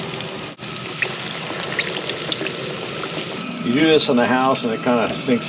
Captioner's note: sizzling